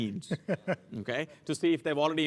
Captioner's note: laugh